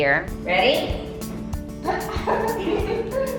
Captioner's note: chuckles; bright music